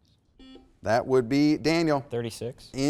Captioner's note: buzzer beeps